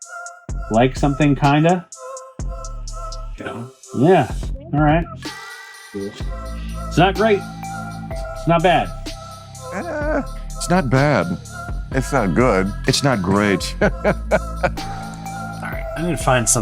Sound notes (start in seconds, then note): 13.8 laughing